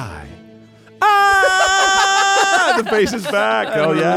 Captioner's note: yells